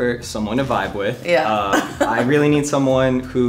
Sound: giggles

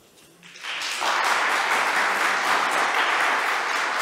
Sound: applause

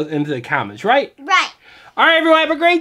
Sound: voiceover

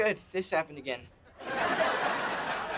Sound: laughing

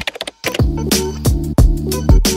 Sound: keyboard typing; mellow music

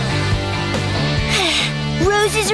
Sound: sighing

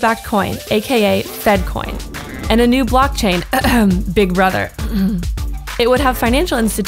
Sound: cough

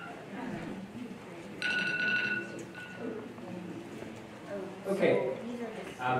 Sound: alarm ringing

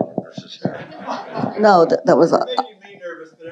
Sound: audience laughing

